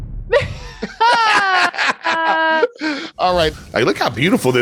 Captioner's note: both laughing